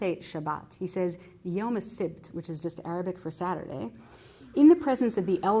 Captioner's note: non-english